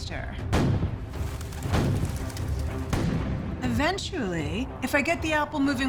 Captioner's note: cannon firing